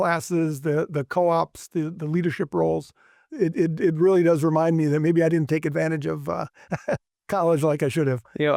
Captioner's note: laughs